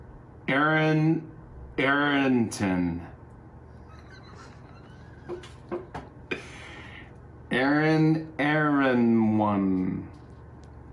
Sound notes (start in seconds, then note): 3.7 laughs